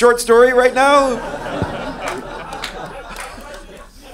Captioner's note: laughing